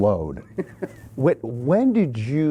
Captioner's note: laughs